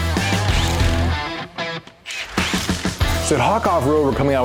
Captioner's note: socket Wrenching